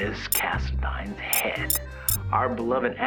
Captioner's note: comments start beeping in